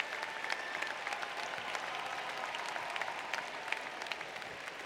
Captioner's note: applause